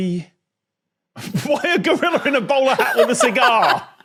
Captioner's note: laughs; guests laughing